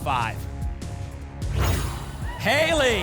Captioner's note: whoosh